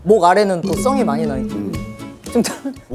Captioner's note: burp